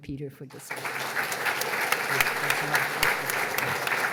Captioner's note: applause